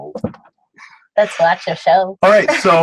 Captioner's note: laugh